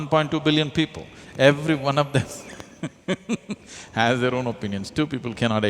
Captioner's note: laughs